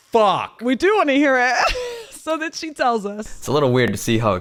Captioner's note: laughs